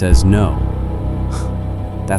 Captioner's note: scoffs